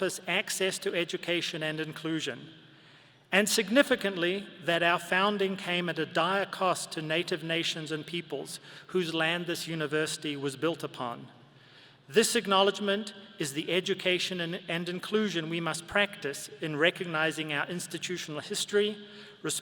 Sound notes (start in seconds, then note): none